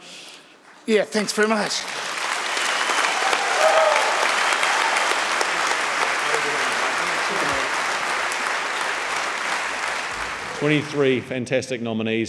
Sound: audience clapping and cheering

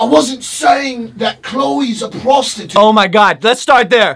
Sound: mock british accent

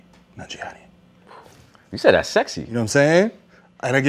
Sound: exhale

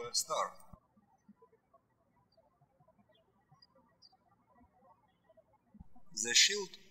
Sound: birds chirping

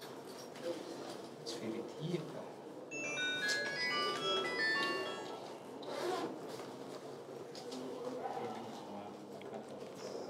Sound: phone rings

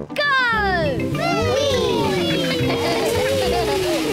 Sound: giggling

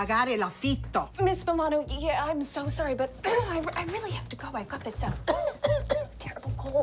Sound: cough

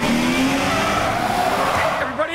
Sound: tires screeching

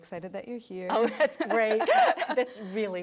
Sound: both laughing

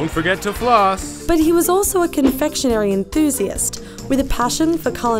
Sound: voiceover

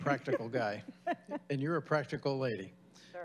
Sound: laughing

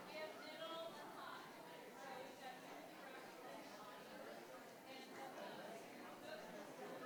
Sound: audience and board members chatting indistinctly continues

